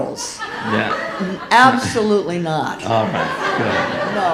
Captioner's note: audience laughing